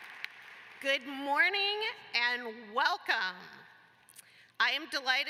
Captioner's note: applause